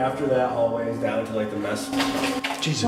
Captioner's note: door opening